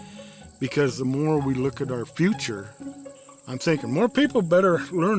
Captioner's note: none